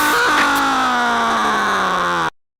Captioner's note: screaming